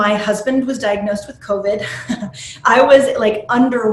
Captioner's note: chuckles